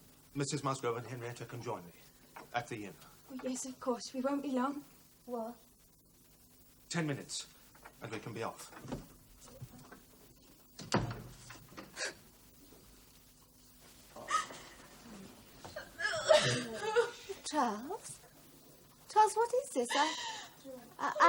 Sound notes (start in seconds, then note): 11.5 sobs; 14.2 henrietta crying